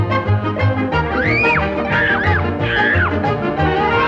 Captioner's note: riders screaming